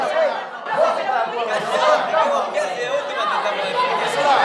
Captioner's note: bustle